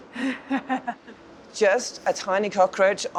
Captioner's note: laughs